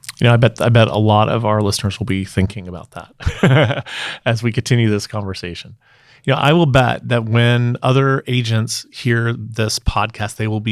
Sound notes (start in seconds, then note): 3.1 laughing